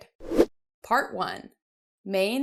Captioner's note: whooshing sound